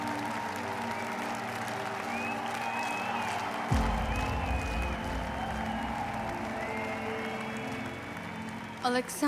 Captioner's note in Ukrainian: оплески